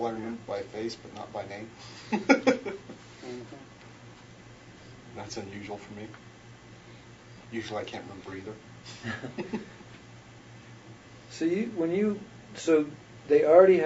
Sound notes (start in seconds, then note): 2.0 laughs; 8.9 laughs